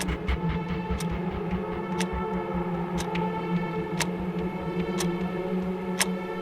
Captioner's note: weeewooon intensifies